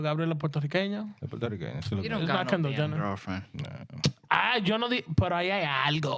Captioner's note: speaking In Spanish